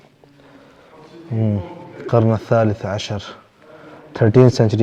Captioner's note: Arabic